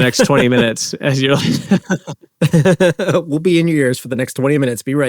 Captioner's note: laughing